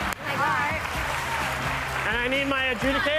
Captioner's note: cheers and applause